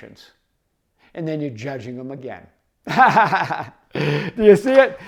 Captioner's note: laughs